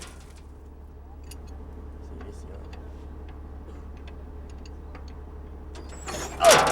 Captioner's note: metal clanging; tools tinkering